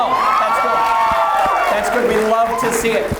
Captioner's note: audience cheers